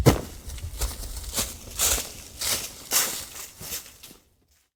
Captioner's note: leaves crunching